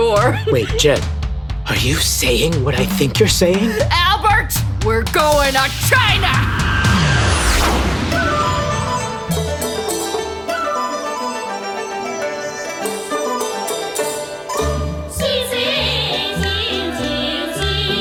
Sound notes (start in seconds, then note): 6.8 sound of plane flying overhead, into music